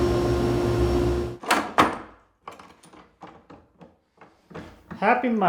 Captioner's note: tool clicking